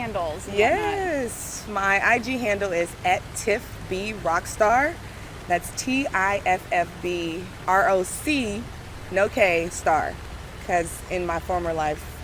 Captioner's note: laughs